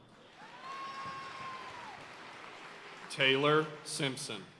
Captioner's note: audience cheering and applauding